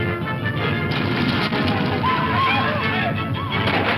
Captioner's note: whooping; gun firing